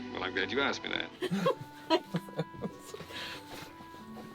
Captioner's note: laughing